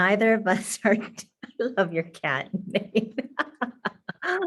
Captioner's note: laughing